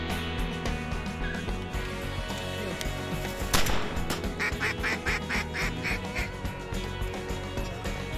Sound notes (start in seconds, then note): 3.5 gunfire; 4.1 duck call quacking